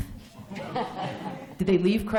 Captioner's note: laughter